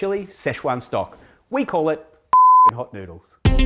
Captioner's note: beep